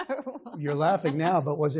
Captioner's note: laughter